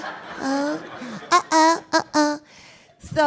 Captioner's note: laughing